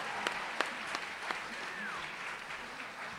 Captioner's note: applause, cheering; whistles